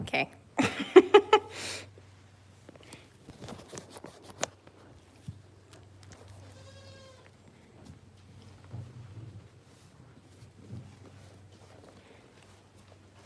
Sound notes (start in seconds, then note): 0.6 laughing; 6.4 goat bleats